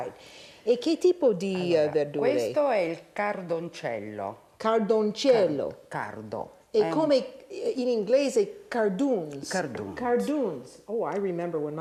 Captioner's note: speaking Italian